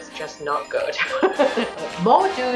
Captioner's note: laughs